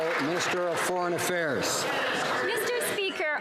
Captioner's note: some Applause